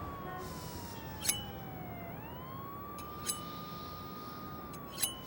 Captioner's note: sirens wailing; knife ringing